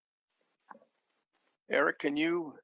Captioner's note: silence